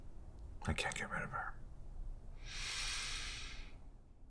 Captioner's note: inhales